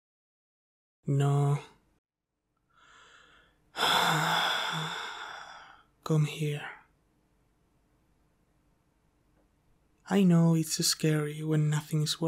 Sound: sigh

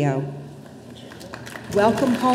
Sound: audience applauding

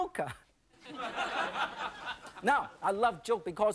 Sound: audience laughing

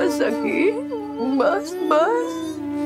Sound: crying

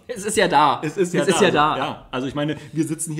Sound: laughs

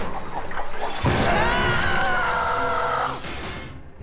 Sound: screaming

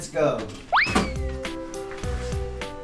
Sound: upbeat music; swoop sound

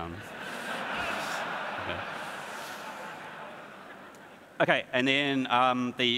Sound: audience laughs

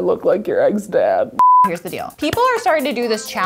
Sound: beeping

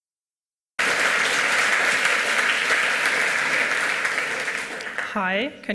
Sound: applause

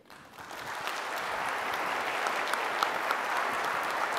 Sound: applause

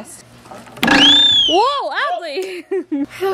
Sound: whistle blows; laughs

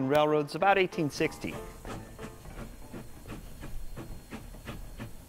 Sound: steam engine chugging

